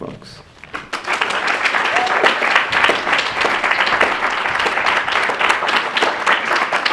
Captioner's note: clapping